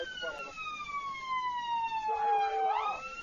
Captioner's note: police radio; muffled shouting